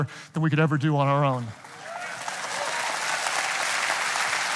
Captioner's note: audience cheering